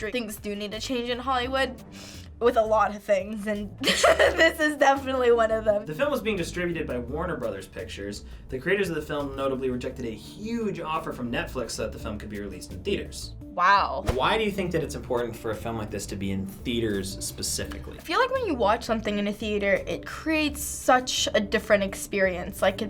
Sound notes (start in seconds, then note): 3.8 laughs